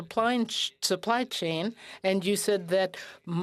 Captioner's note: speaking French